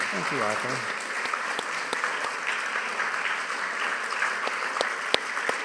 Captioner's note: audience applauding